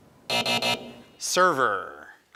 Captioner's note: alarm buzzes